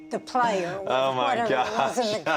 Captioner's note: laughs